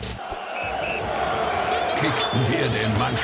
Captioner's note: sports coach whistle